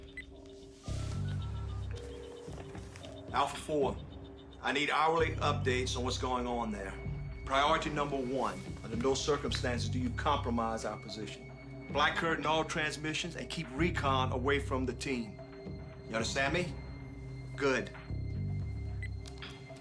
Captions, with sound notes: (Phone ringing) Alpha 4, I need hourly updates on what's going on there. Priority number one! Under no circumstances do you compromise our position. Black-curtain all transmissions, and keep recon away from the team. You understand me? Good!